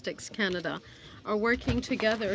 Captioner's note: speaking French